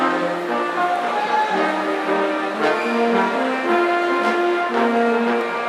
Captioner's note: audience cheering